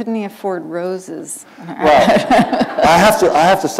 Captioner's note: laughter